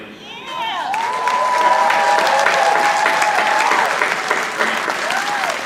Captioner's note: audience applauding